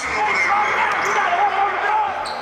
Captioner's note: cheering